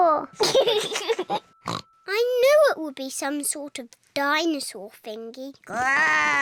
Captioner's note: oinks; laughs; oinks; growls